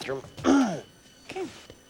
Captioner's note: clears throat